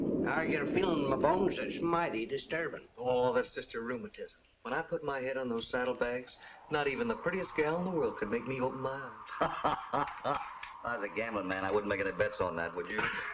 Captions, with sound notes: I've got a feeling in my bones, it's mighty disturbance. Oh, that's just a rheumatism. When I put my head on those saddlebags, not even the prettiest gal in the world can wake me up. [ LAUGHTER ] As a gambler man, I wouldn't make any bets on that, would you?